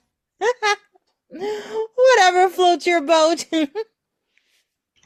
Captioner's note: laughing